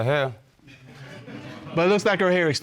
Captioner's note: audience laughing